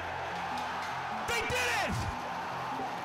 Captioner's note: applause